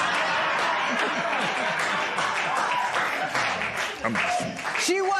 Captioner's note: laughter